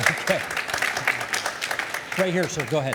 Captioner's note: audience applauding